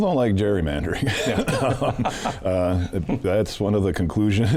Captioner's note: laughing